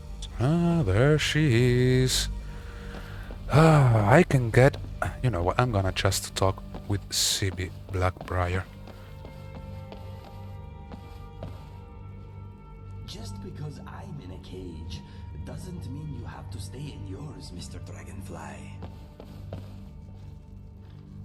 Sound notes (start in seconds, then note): 2.5 sigh; 2.7 groan